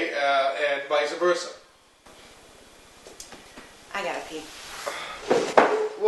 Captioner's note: Bob sighs